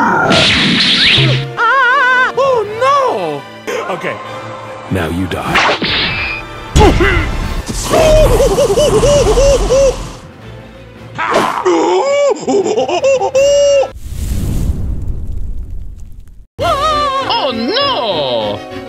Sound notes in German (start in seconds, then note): 11.2 Schreiender fallender Affe